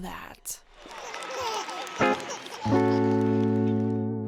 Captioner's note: baby laughing